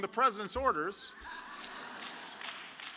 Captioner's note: laughter; applause